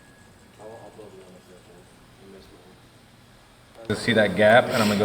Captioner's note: speaking away from mic